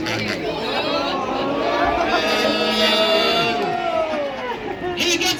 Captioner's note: rising cheers from the crowd